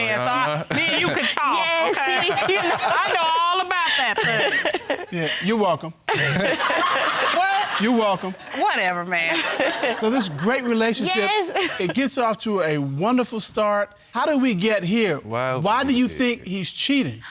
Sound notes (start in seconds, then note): 1.9 all laughing; 6.1 all laughing